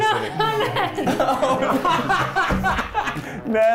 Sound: all laughing

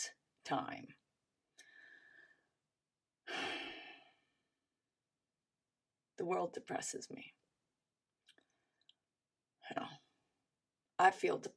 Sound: sighs with exasperation

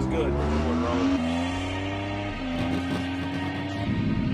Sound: car engine roars

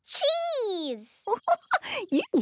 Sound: giggling

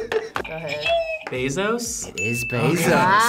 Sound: React laughs; buzzer rings

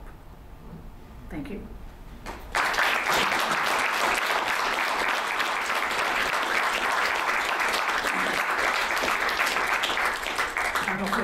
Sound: applause

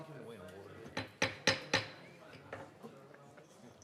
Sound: gavel bang, bang, bang

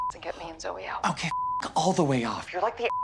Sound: beep; beep

